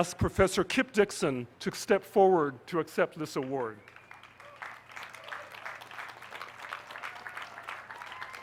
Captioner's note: applause